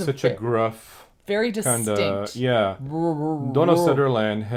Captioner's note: mimics voice